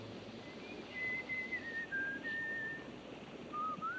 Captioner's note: Reb whistling